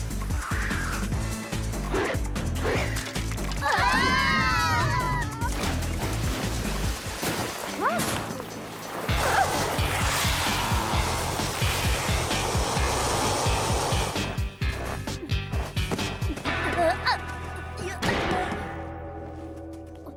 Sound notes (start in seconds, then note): 3.6 clones shriek; 7.0 splash